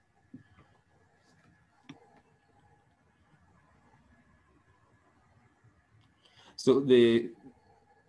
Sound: silent

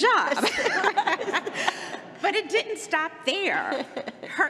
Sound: laughter

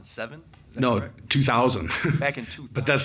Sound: chuckles

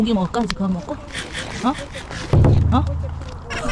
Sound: munch munch

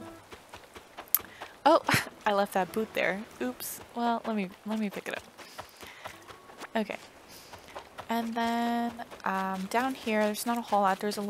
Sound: laugh

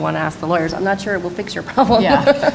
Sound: laughs

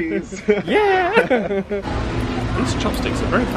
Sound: laughs

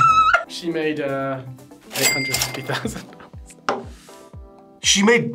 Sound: both laugh; cash register dings

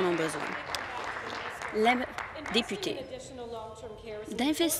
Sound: applause

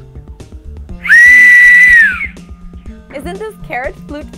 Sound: loud whistle

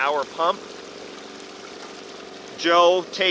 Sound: machine rumbles

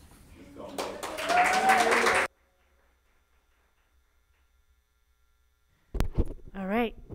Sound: people cheer; audience applauds

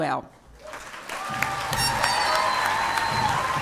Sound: applause

